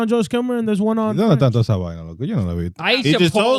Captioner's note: speaking In Foreign Language